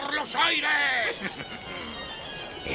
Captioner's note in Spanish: risa malvada